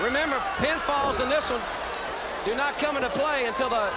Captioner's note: crowd chatter